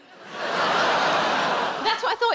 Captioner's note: audience groaning